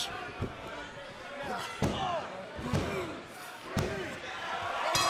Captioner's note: bell ringing